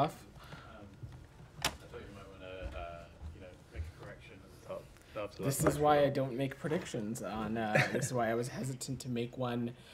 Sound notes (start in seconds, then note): 7.7 laughter